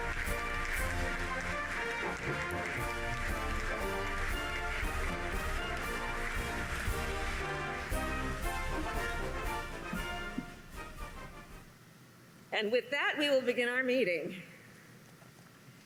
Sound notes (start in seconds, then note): 5.3 applause